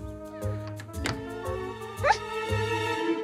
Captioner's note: Door closes